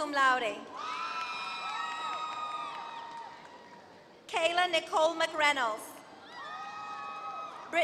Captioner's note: applause